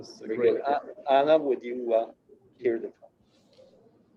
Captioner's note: murmurs